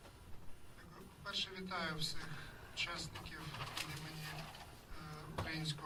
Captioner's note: speaking in foreign language